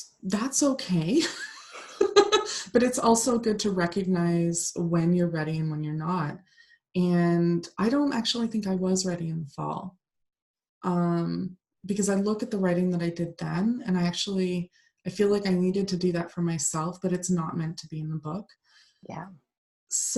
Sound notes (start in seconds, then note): 2.0 laughs